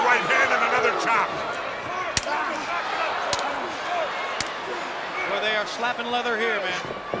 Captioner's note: blows thudding